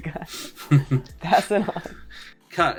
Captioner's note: chuckles